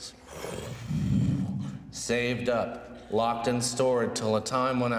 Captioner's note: blows